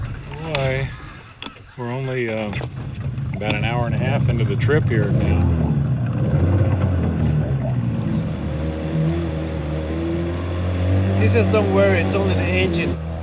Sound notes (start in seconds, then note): 6.0 motor sputtering; 8.2 motor humming; 13.0 speaking Spanish